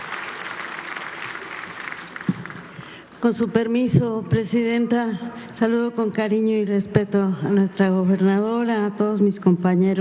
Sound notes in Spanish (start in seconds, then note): 2.2 aplausos